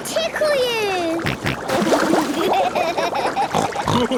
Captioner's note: snorting, giggling